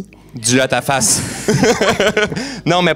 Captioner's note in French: rires